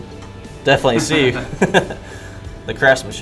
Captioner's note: laughing